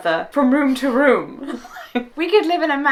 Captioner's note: laughing